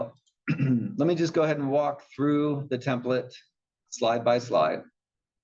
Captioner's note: cough